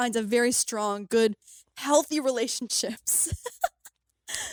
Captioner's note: laughs